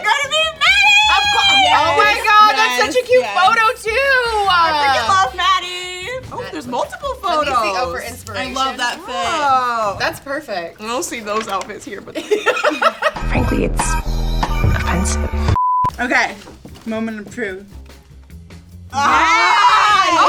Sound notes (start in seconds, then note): 12.1 others laughing